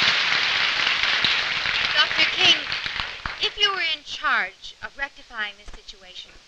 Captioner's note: applause